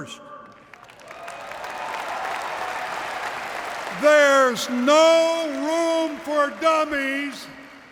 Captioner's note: applause